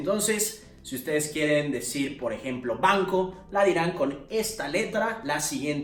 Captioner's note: spanish